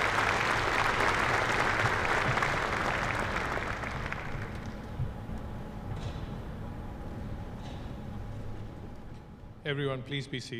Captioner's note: applause